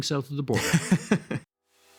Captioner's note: laughing